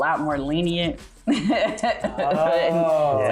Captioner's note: laughing